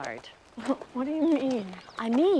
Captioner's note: chuckles